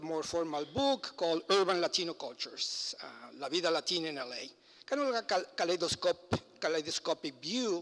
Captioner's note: foreign language